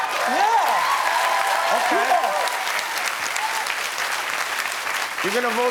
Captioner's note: cheers and applause